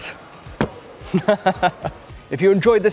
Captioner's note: laughing